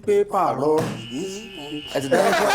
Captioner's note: buzzer sounds; laughs